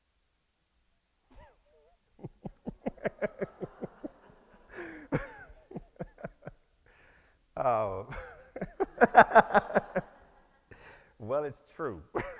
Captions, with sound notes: (all laugh) Well, it's true.